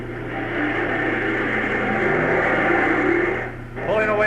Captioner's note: engines roaring